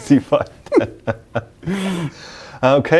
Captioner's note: both laughing